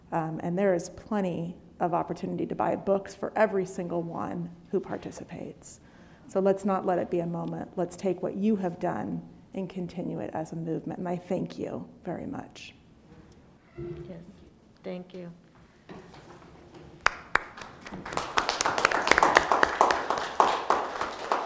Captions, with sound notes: and there is plenty of opportunity to buy books for every single one who participates. So let's not let it be a moment. Let's take what you have done and continue it as a movement. My thank you very much. - Yes, thank you. (Participants clapping)